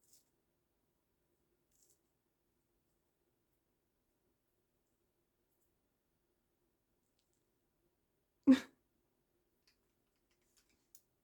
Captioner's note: laughs